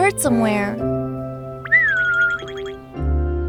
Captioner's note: weak chirping